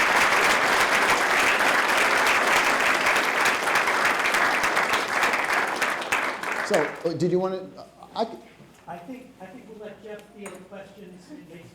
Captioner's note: applause